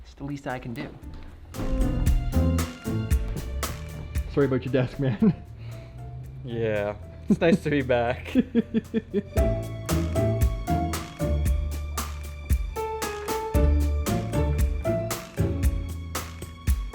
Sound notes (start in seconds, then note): 8.2 chuckles; 10.7 smooth electronic music